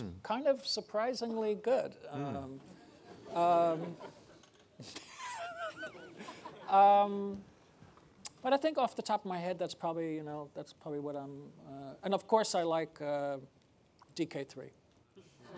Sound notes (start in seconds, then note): 2.5 audience laughing